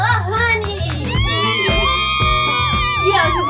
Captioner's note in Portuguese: som de comemoração